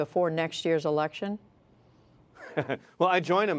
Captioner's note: laughter